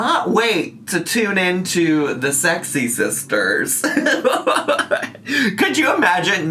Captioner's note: laughs